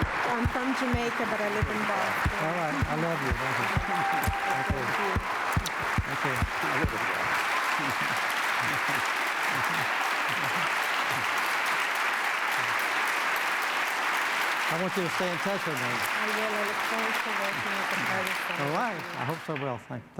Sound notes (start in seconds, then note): 8.2 applause